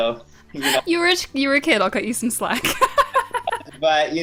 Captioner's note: laughs